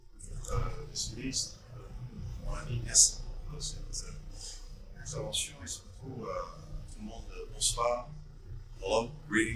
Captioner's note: in French